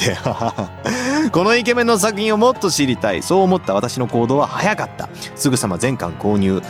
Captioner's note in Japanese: 笑い